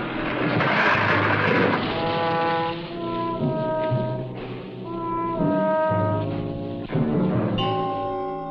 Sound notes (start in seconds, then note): 0.0 tree breaking; 1.3 solemn instrumental music